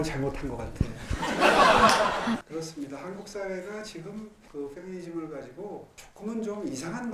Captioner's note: audience laughing